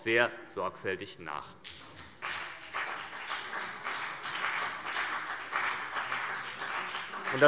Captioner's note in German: Beifall CDU und BÜNDNIS 90/DIE GRÜNEN